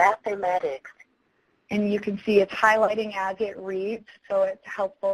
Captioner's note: voiceover